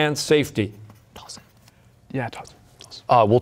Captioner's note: whispering